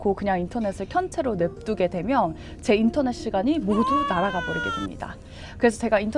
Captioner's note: sobbing